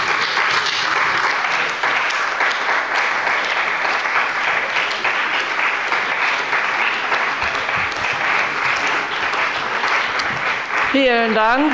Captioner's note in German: Anhaltender Beifall bei dem BÜNDNIS 90/DIE GRÜNEN und bei Abgeordneten der CDU